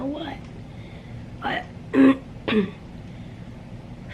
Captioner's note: clears throat